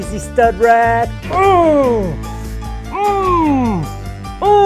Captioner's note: grunting